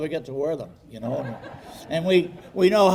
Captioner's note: audience laughing